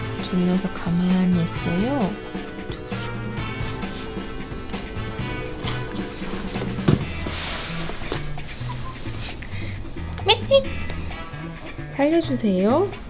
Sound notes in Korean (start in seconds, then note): 8.9 울음